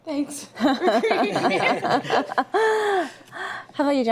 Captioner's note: everyone laughs